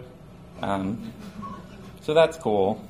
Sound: audience chuckles

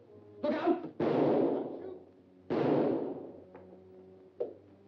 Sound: gunshots blare

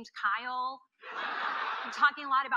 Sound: audience laughing

